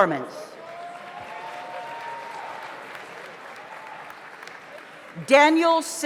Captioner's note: audience applauds; audience cheers